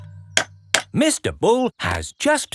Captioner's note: clanking